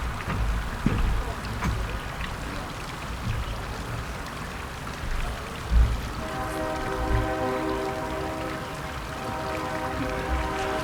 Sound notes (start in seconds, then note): 6.2 vehicles hooting